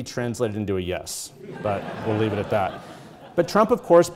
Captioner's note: audience laughing